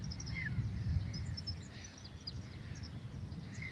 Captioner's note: birds chirping